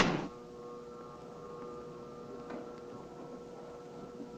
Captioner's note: lift whirring